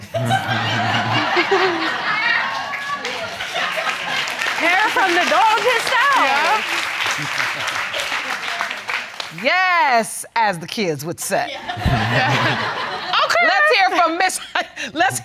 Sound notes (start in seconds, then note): 0.0 all laugh; 3.4 audience clapping; 11.6 all laugh; 14.5 laughs